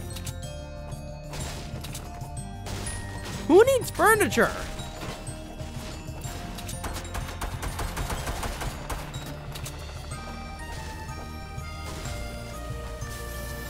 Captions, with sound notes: (wood cracking) Who needs furniture?!